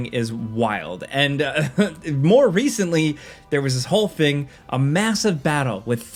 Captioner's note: chuckles